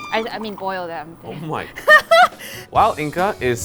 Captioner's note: laughs